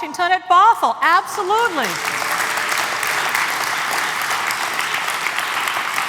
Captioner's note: applause